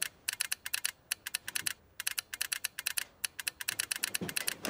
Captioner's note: telegraph clicking